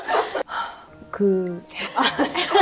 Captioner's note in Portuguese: Suspiro